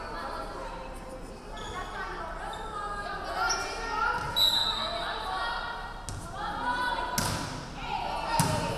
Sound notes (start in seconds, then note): 4.3 referee whistling